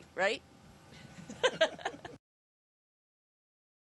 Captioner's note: laughing